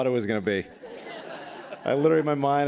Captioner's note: laughter